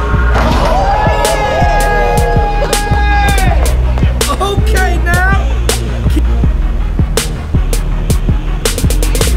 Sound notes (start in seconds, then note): 0.0 crowd cheering and applauding